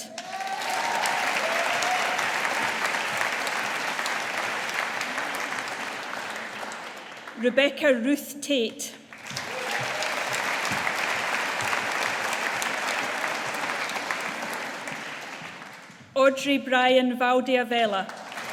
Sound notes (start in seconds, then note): 0.0 audience applauding; 9.1 audience applauding